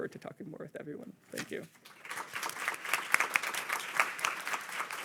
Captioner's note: audience applauding